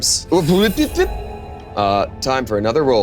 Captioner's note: stammers in gibberish